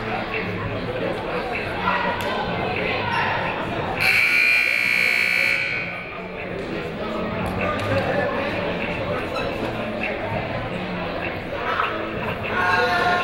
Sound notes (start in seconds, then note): 4.0 buzzer ringing; 6.2 people talking in the crowd